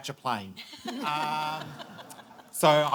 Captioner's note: audience laughing